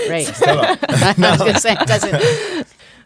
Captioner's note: laughing